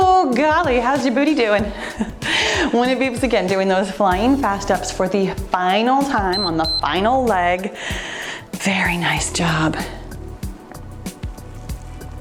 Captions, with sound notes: Oh golly, how's your booty doing? When it beeps again, doing those flying fast steps for the final time on the final leg. (timer beeps) Very nice job.